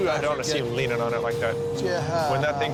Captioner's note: stammers